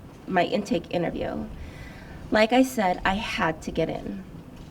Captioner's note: none